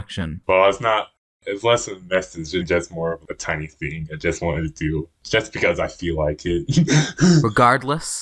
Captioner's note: laughs